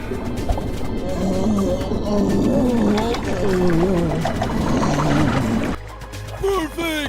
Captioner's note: fish monster screams in pain